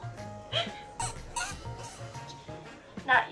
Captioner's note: squeak